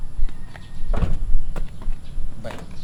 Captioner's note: door partially closes